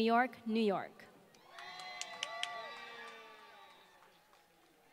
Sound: applause

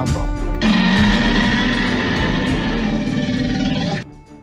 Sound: T-rex roars off

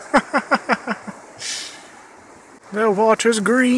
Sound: laughs

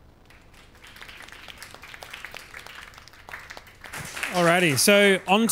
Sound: audience applauds

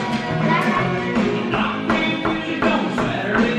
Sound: markers tapping

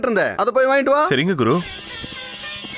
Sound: none

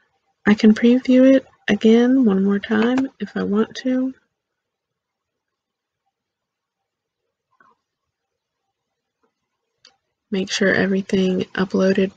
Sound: click

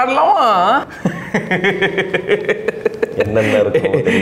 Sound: laughs

